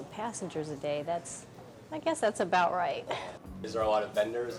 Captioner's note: laughs